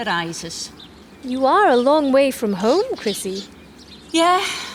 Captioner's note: laughs